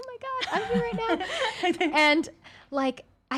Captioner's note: women laughing